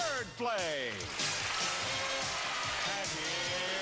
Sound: applause

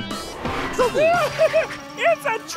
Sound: chuckles

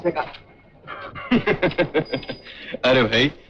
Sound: laughs

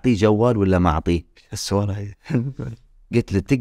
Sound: laughs

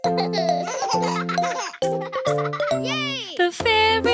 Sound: baby chuckling; kids chuckling

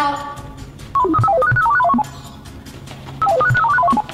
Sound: robotic noises

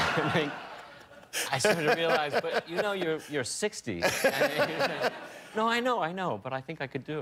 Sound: laughter

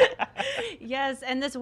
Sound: all laughing

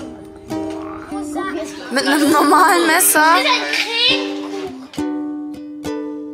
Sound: speaking German; background music

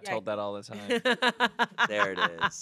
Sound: laughs

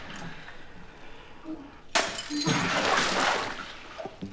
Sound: glass smashes

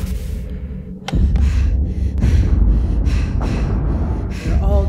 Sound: breathes heavily

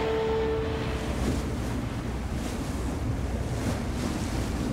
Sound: waves crashing

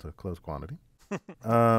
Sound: laugh

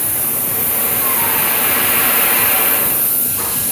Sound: loud bang-lighting of torch- fire

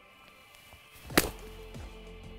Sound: upbeat music; club whooshes

